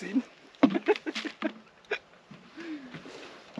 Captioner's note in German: lacht